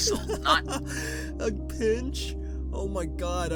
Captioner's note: laughter